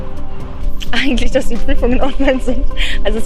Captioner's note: laughs